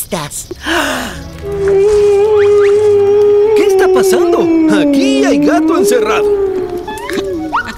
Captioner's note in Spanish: Aullido